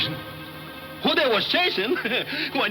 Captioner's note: chuckles